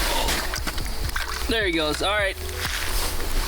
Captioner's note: water splashes